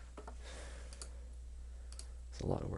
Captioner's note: clicking